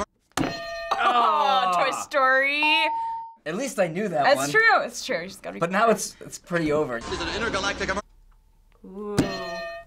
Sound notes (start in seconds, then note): 0.3 hitting bell; 0.4 ding; 9.4 hitting bell